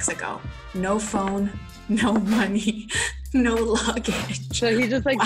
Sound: laughs

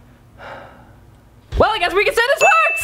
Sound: sigh

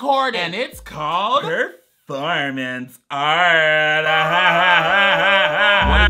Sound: laughs creepily

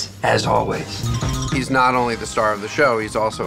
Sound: jingling effect

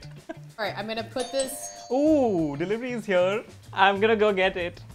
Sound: A doorbell rings

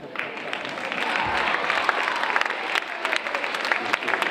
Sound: audience applauding

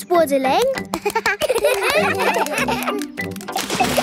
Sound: children laugh

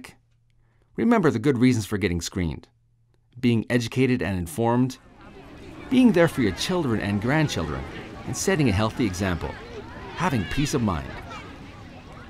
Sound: sound of children laughing and playing

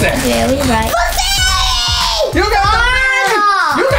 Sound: screams

